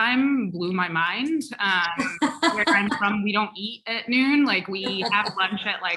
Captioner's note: laugh